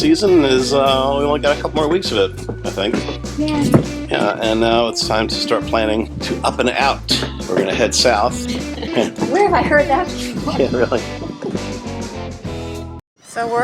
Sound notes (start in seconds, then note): 7.0 laughter